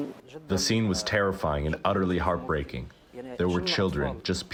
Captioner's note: through translator